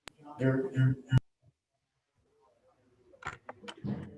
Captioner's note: PA announcement